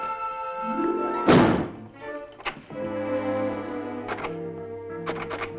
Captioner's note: door slamming aggressively